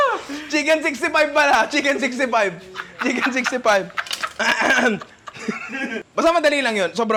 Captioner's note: laughs